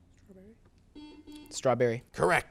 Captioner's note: buzzer beeps